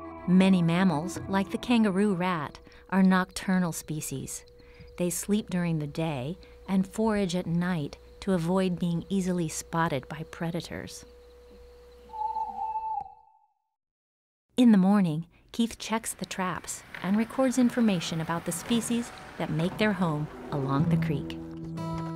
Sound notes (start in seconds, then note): 12.3 owl whoos